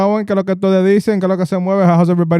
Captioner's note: speaking Spanish